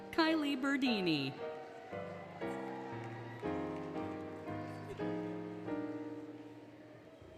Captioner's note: applause, Cheering, Music